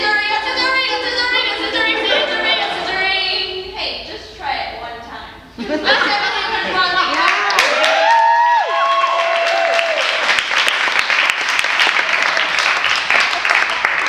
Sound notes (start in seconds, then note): 9.4 cheers and applause